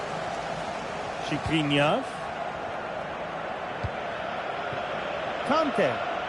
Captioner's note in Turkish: coşkulu tezahürat